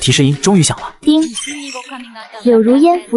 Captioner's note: ding!